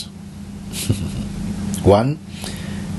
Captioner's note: Mooji chuckles